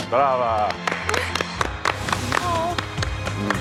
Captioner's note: Aplausos